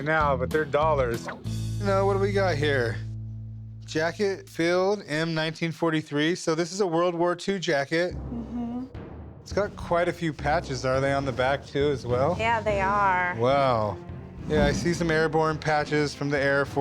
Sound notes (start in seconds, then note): none